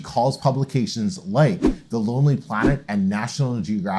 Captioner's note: air whooshes